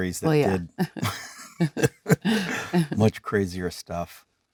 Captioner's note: Leonardo and Jennifer laughing